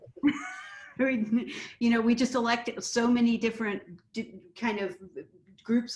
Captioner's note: laughs